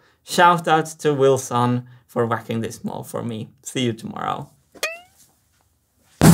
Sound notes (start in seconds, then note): 4.8 poing; 6.2 whack